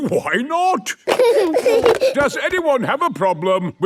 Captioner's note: giggling